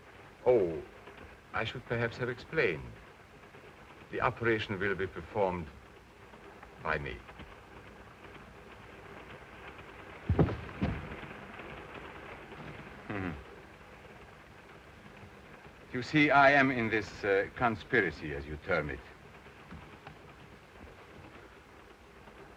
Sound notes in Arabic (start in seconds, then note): 10.2 تعثر الأقدام; 13.1 هارتز يضحك